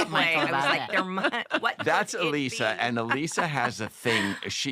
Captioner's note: laughter